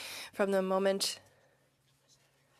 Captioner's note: speaking French